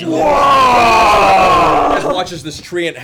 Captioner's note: all yell